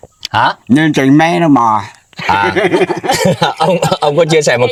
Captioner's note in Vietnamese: tiếng cười